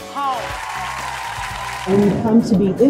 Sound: audience cheering

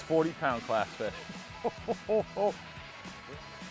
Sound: laughs

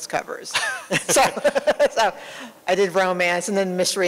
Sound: laughter

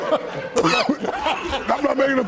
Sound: studio people start to laugh; coughs

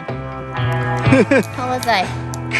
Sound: laughs

